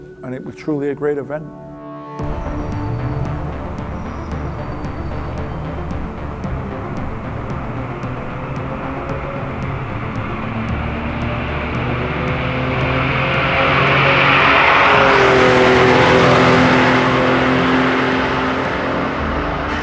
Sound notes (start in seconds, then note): 2.2 dramatic electronic music; 10.5 engine accelerating